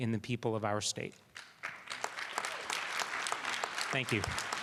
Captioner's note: applause